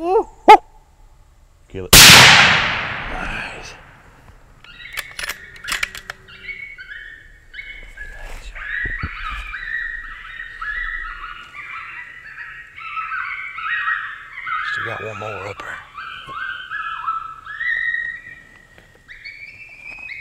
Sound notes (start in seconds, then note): 0.0 man imitates coyote bark; 1.9 gun fire; 3.1 whispers; 4.9 metal of gun clanging; 6.6 coyote pup animal call; 16.6 coyote pup animal call